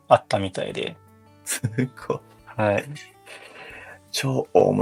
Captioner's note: laughs